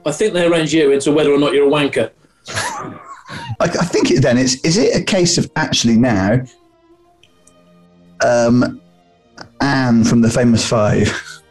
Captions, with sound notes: I think they arrange you into whether or not you're a wanker. [SNIGGERING] I'm thinking then, is it a case of actually now... Um... ...Anne from the Famous Five?